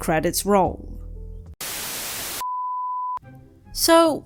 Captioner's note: static